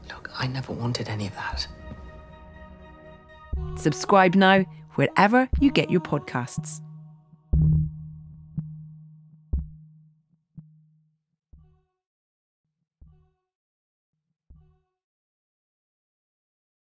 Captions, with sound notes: - Look, I never wanted any of that. (singer humming) - Subscribe now wherever you get your podcasts.